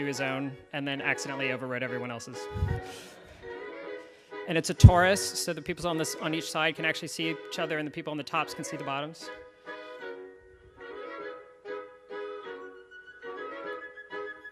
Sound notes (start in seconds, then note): 3.8 audience laughs; 10.9 cheerful acoustic music